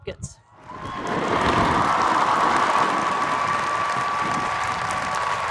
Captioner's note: audience cheers and applauds